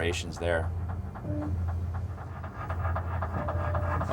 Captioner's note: sonar clicking rhythmically